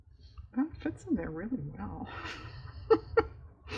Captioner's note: laughs